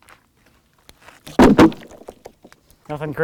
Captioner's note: wood thuds